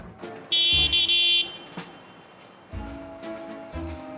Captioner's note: horn